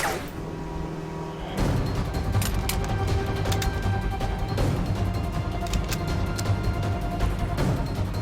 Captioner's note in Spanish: Ruido de los aerobotes